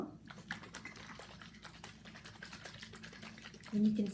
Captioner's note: liquid sloshing